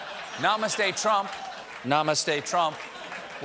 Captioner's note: laughter